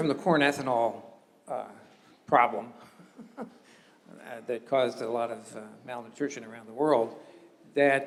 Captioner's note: laugh